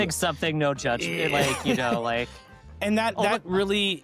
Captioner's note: laughs